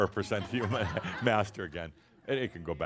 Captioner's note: some chuckles